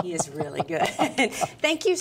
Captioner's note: chuckling